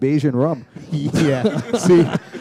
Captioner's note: chuckle